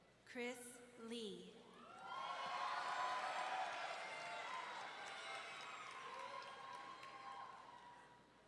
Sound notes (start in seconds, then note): 1.9 audience cheering